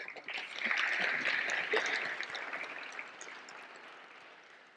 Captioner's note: audience applauding